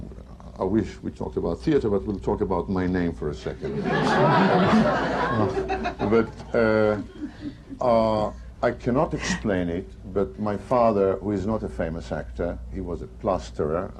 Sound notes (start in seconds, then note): 3.6 laughter